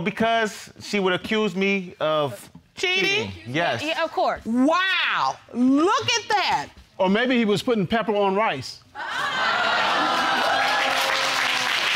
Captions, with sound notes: Well, because she would accuse me of cheating. Wow! Look at that! Or maybe he was putting pepper on rice. (AUDIENCE EXCLAIMING) (ALL APPLAUDING)